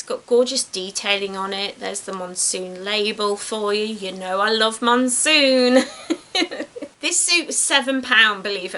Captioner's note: laughs